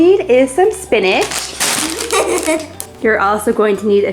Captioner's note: laughing